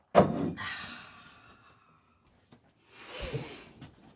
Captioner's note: Betsy sighs